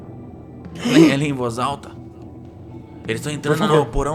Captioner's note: sighs